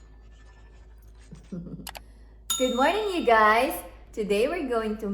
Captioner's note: chuckles